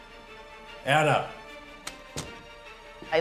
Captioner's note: door closes